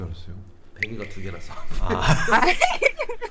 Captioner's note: confident